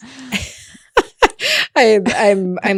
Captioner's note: presenter laughing